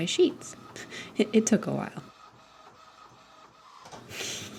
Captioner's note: chuckles; printer whirs